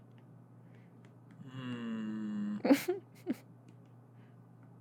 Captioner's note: giggles